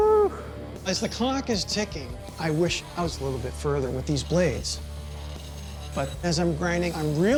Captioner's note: none